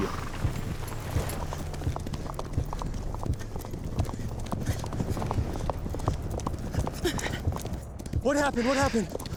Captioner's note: hoofbeats